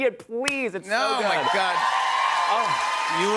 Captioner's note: cheers and applause